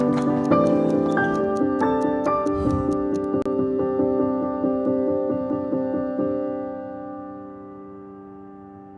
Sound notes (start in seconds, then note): 3.4 ticking stops